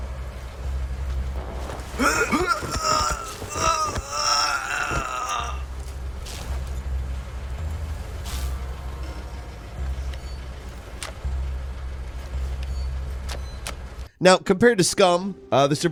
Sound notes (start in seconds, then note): 1.8 groaning